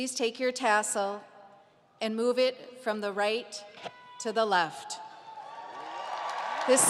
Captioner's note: applause